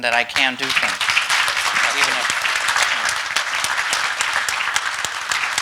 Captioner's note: audience clapping